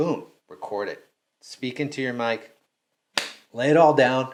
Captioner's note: smacking